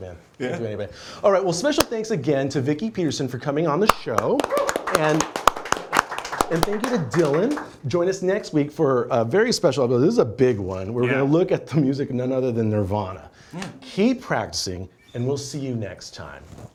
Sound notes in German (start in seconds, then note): 3.9 applaus